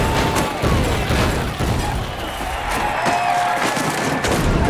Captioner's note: cheering